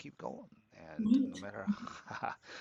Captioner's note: laughs